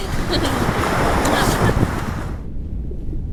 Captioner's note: wind blowing